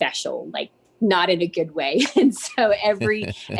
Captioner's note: laughs